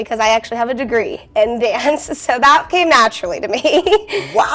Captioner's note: laughs